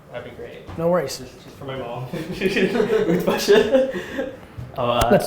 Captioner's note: laughs